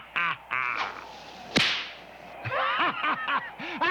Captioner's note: laughing; whip cracks